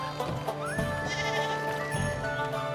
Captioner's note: sheep bleating